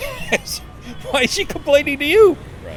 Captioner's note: laughs